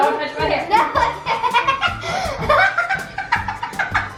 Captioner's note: laughing